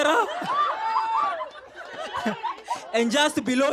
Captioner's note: laughter